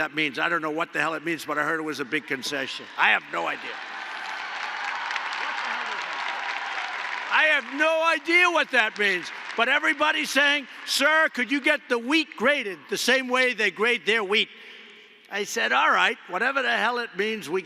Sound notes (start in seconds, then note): 5.6 applause